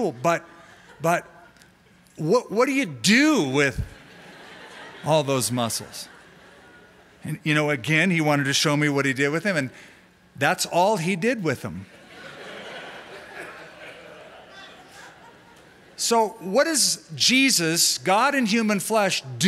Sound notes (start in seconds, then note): 11.9 laughter